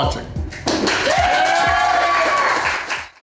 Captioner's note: crowd clapping and cheering